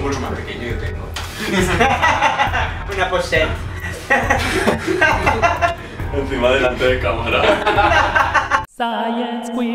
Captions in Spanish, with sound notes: ¿Quieres un bolso más pequeño? Yo tengo. [risas] Una pochette. [risas] Encima delate de cámara. [risas] Science Queers...